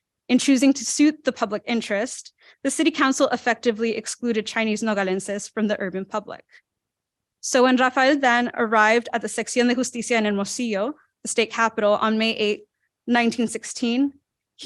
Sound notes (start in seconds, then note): 9.8 non-english speech